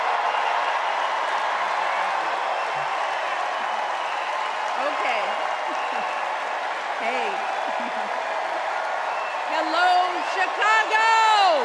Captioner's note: cheers and applause